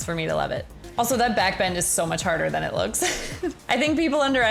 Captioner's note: chuckles